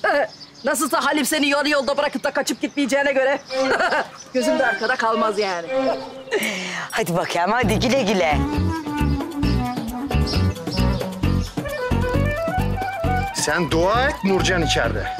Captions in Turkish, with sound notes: Nasılsa Halim, seni yarı yolda bırakıp kaçmayacağına göre... ...gözüm de arkada kalmaz yani. Hadi bakayım hadi, güle güle. (Kuş cıvıltısı sesleri) Sen dua et Nurcan içeride.